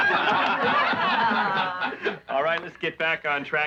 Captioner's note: laughing